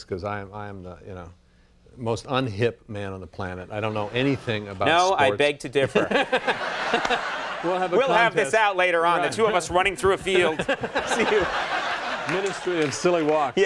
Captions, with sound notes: 'cause I am the most unhip man on the planet. I don't know anything about sports- No, I beg to differ. (laughs) We'll have a contest. We'll have this out later on, the two of us running through a field, see who- Ministry of Silly Walks.